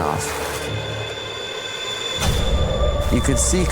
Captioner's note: thunder